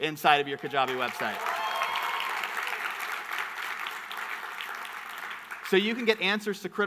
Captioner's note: audience cheering and clapping